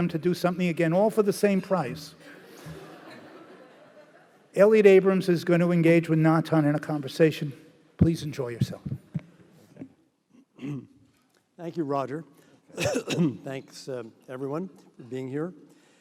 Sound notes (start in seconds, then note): 2.5 laughing